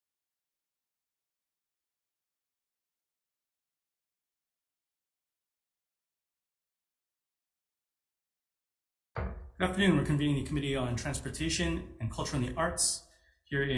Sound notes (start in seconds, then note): 9.1 gavel thudding